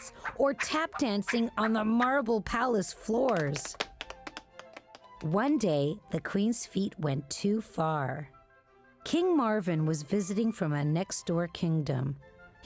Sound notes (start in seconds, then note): 3.2 tapdancing